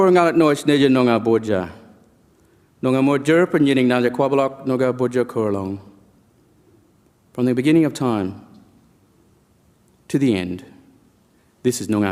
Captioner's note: speaks in language